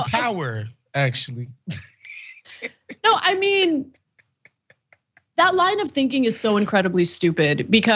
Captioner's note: laugh